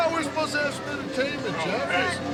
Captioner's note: crowd chatter